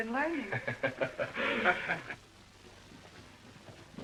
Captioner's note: laughter